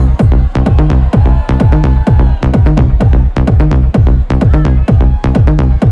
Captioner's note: crowd cheering; upbeat house music continues